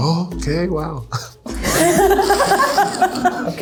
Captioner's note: laughter